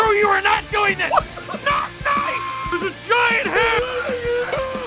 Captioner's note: screaming; Harry potter screaming